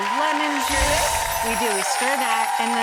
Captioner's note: applause